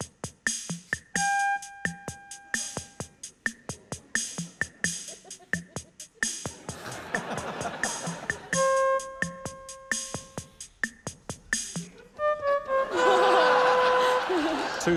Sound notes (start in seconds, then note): 1.2 note five plays; 6.6 laughter; 8.5 note one plays